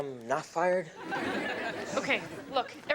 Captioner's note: audience laughs